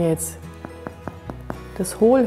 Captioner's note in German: klopf